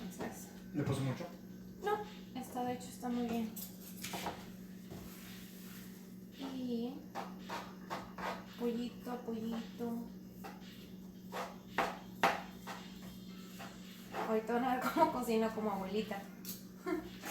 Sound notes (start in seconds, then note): 11.3 more knife sounds